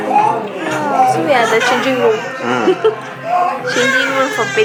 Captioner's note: auntie giggled